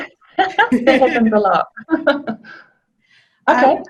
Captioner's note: laughter